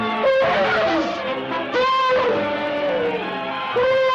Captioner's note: elephant trumpets